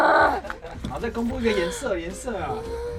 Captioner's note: lion’s roar